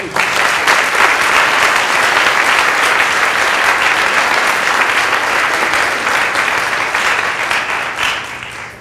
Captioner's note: applause